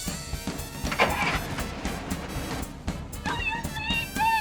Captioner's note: boat revs